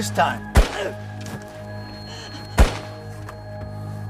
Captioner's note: gun firing